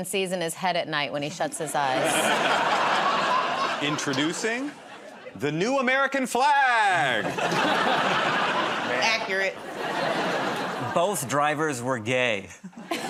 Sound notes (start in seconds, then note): 1.7 laughter; 7.2 laughter